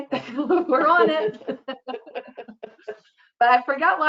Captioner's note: laughter